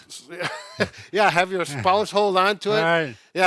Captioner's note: laughs